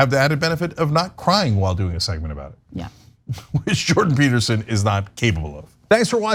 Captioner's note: laugh